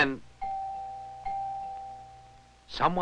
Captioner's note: doorbell rings